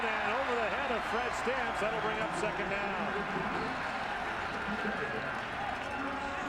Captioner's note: cheers and applause